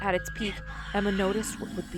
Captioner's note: ghostly voice all around